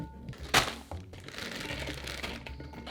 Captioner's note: cauliflower dropping; plastic rustling